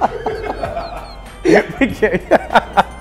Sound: laughs

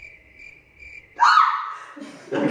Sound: scream

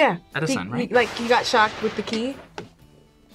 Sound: thunder crackles

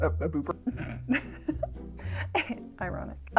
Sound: chuckling

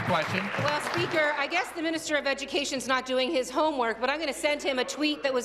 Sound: applause

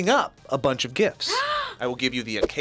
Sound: gasps

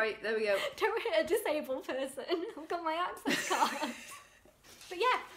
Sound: laughs

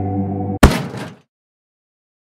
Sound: bump

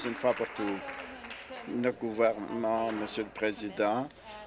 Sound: applause

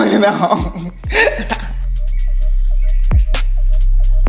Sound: laughs; bass music

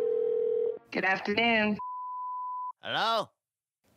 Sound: beeping

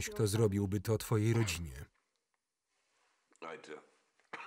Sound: Pope coughing

